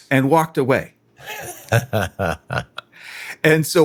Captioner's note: laughing